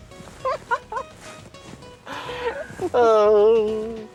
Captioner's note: laughter